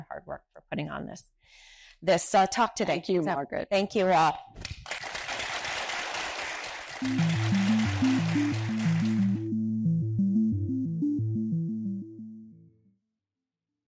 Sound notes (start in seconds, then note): 4.6 participants clapping; 4.8 audience applauding; 8.5 gentle ambient music